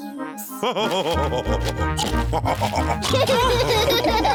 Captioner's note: laugh and snorts; all laughing